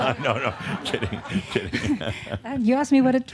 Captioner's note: laughter